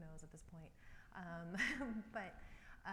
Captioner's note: laughs